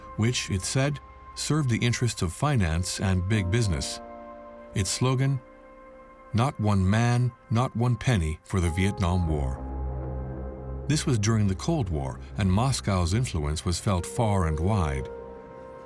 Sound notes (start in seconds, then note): none